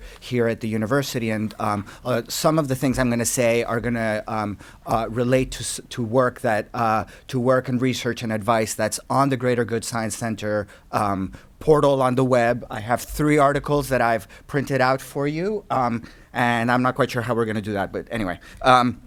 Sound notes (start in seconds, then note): none